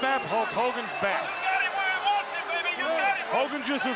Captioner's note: crowd chatter